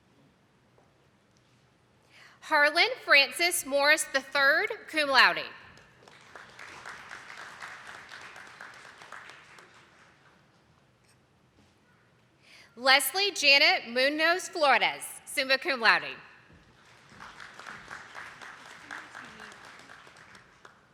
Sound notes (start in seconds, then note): 5.7 attendees clapping; 16.5 attendees clapping